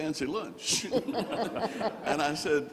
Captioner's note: all laughing